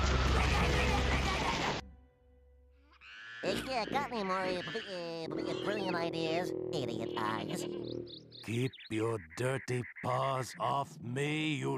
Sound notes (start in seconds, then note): 3.4 stuttering